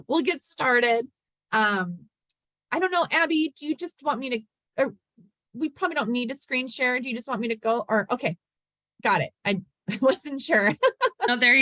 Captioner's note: laughter